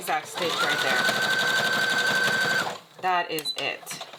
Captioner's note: sewing machine whirring